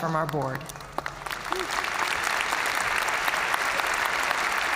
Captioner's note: audience cheering and applauding